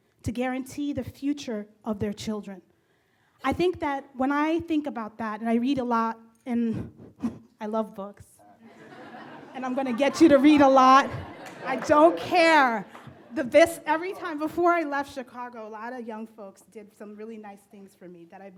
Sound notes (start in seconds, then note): 8.6 laughs; 8.6 audience laughs